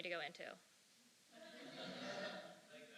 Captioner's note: laughter